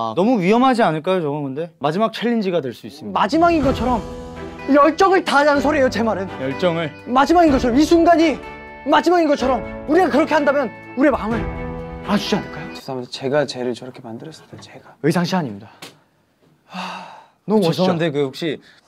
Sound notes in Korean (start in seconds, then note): 16.6 한숨